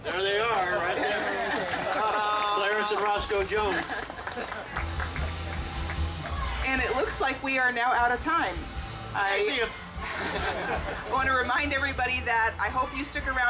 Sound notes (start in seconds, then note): 4.9 rock music; 10.0 group laughing